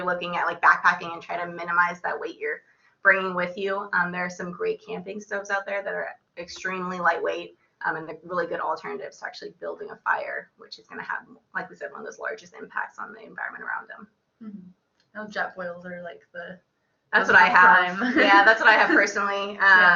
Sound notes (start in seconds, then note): 17.9 laughter